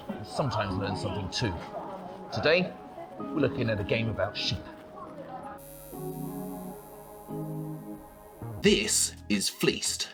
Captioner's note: Neon logo buzzes…